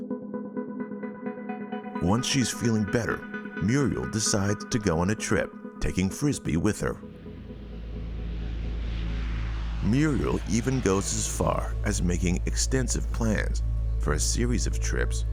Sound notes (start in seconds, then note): 7.9 engine revving